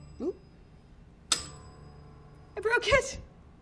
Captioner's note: bell rings